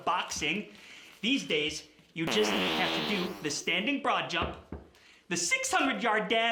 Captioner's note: farting sound from cheese can